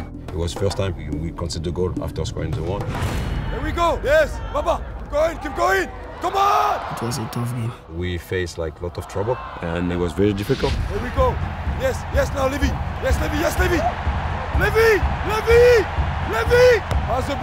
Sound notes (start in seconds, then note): 6.5 crowd cheering; 16.8 ball thuds